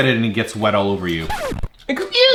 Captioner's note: record scratch